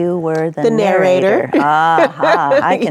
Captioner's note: laughs